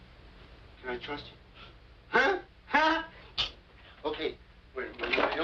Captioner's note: whispers